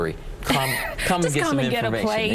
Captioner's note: women chuckling